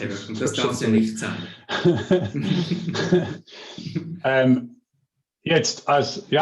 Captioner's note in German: Lachen